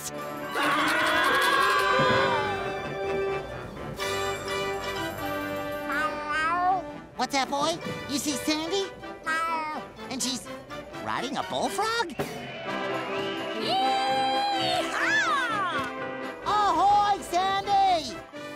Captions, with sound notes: [screaming] [meowing] What's that boy? You see Sandy? [meowing] And she's riding a bullfrog? Yee haw! Ahoy, Sandy!